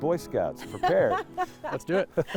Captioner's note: laughing